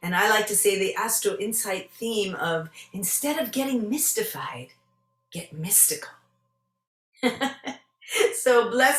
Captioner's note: joyous laugh!